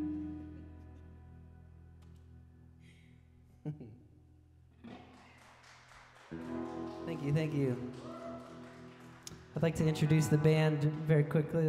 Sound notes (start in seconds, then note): 0.1 laughing; 4.8 audience clapping